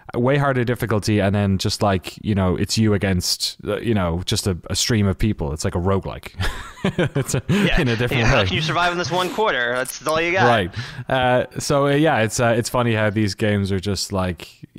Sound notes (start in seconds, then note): 6.4 laughs